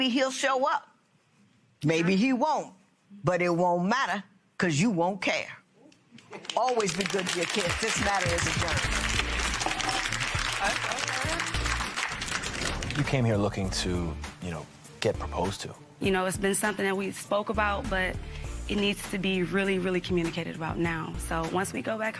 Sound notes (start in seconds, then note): 9.0 applause